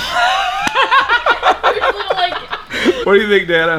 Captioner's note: all laughing